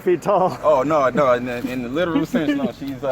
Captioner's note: laughing